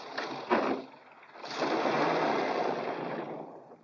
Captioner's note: engine turns over; car roars